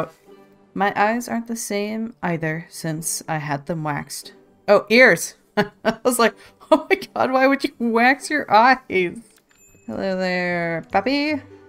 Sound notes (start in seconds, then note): 5.4 laughs